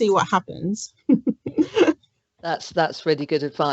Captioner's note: laughs